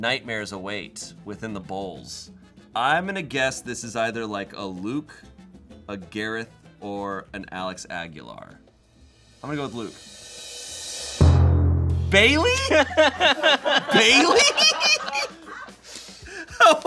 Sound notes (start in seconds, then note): 10.6 drum roll hisses; 12.1 deflated music; 13.1 crew laughs; 15.5 laughs